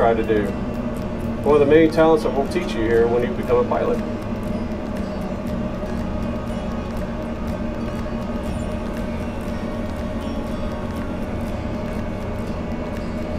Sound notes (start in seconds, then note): 4.6 flight simulator engine whirring continues; 9.6 lighthearted music continues